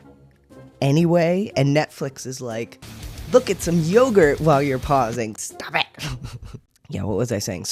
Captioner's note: laugh